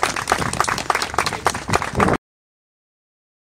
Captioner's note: applause